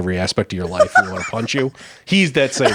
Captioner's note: laughing